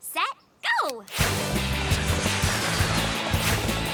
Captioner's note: clock ticking